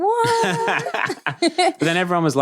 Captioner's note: both laughing